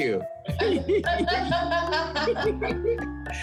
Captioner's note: all chuckle